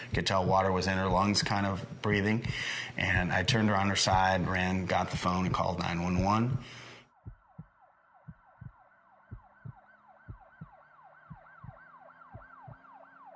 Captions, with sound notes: you could tell water was in her lungs, kind of breathing. And I turned her on her side, ran, got the phone, and called 911. (heart beating) (sirens wailing)